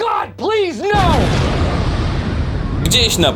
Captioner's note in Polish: boom!